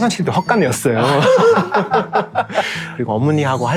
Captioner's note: laughter